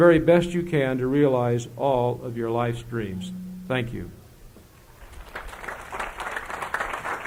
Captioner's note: applause